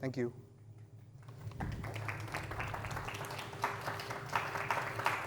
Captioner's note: applause